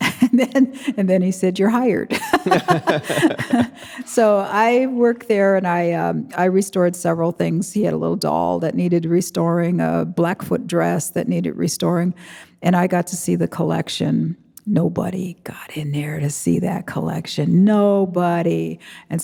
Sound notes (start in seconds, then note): 2.1 chuckles; 4.1 chuckling; 4.1 laughing